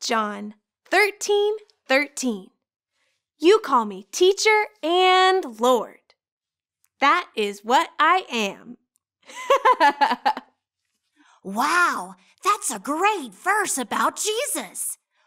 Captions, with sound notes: John 13:13, " You call me teacher and Lord. That is what I am." (laughing) - Wow that's a great verse about Jesus.